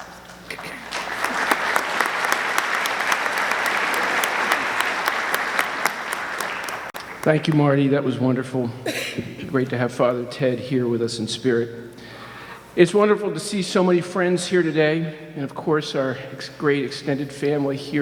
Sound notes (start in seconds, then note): 0.4 audience clapping